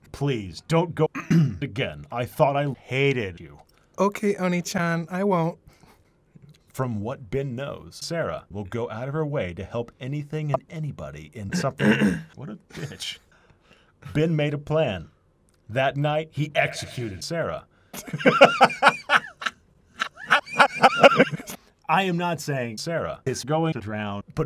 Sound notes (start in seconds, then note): 1.1 clears throat; 11.6 clears throat; 18.0 maniacal laughter